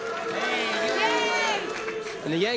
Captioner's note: booing